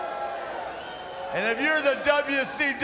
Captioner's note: crowd cheering